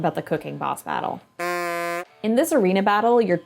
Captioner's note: cartoon honk!